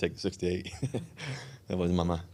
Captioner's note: Russell laughing